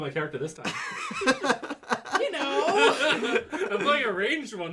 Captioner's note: laughs; loudly, clearly not knowing what to say; laughs